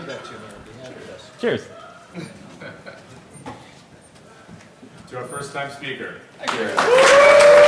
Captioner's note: applause